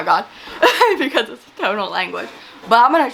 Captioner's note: laughs